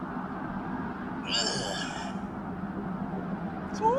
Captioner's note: satisfactory grunt